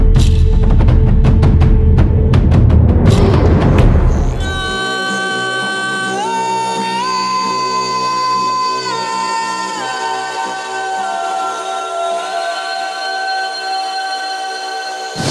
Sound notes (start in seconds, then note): 0.0 music: Drums; 0.2 music: Drums + Bell Rattle; 4.4 plangent female voice